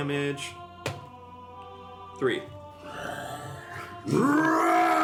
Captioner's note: roars